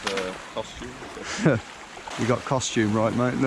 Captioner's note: laughing